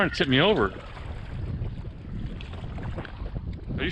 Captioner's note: water splashing